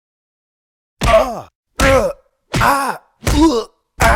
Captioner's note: punch noises; Finn groans in pain